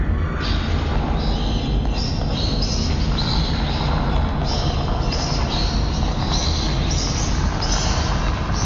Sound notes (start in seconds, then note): 1.1 rats squeaking; 2.0 tense music continues